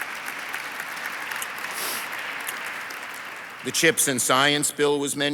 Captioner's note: audience applauds